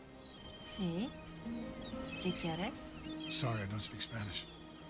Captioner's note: Catherine speaking Spanish